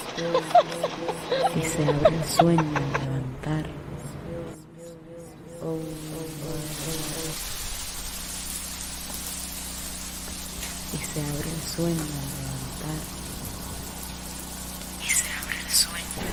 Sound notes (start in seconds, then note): 0.0 cackling; 1.9 speaking foreign language